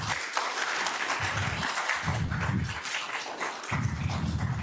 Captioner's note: attendees continue applauding